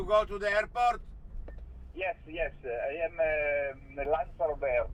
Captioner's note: voiceover